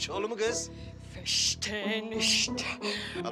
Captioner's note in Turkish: Almanca konuşma